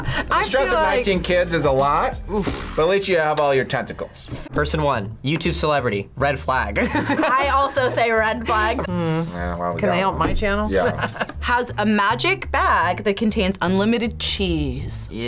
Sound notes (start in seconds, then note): 6.8 laughs